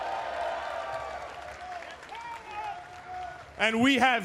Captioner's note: cheers & applause